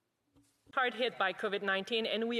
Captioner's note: speaking in French